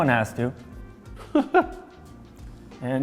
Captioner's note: laughs